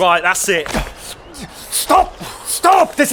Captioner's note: the doctors scuffle